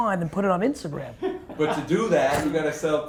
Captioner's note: laughing